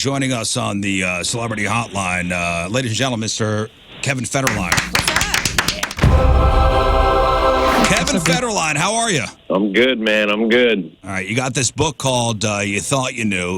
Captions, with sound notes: joining us on the celebrity hotline. Ladies and gentlemen, Mr. Kevin Federline. (audience clapping) (dramatic music) Kevin Federline, how are you? I'm good, man, I'm good. All right, you got this book called, You Thought You Knew.